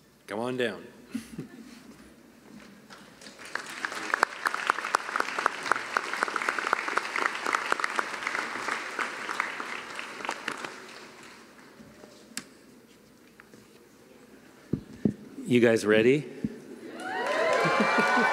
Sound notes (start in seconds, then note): 2.9 applause; 16.9 cheering and applause